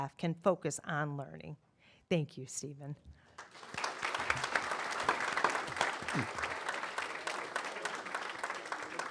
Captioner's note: applause